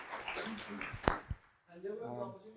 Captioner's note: applause